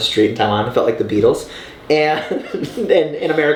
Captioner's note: laughing